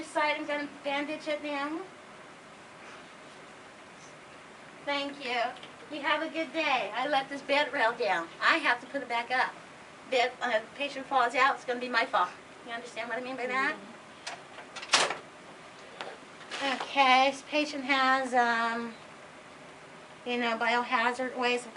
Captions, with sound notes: I'm going to bandage it now. Thank you! You have a good day! I let this bedrail down, I have to put it back up. If the patient falls out, it's going to be my fault, you understand what I mean by that? (Bedrail clicks into place.) If the patient has, you know, biohazard waste